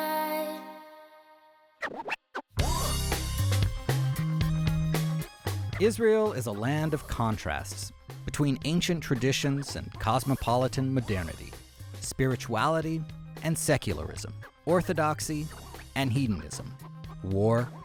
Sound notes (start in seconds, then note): 2.6 record scratches